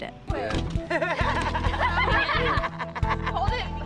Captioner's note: laughing